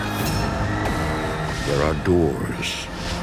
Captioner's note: screaming